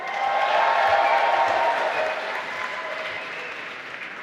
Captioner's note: applause